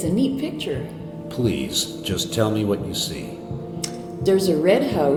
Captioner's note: disembodied Voice